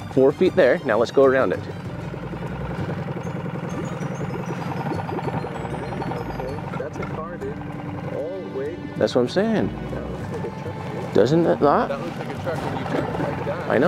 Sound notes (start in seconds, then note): 3.0 boat spluttering; 3.0 upbeat music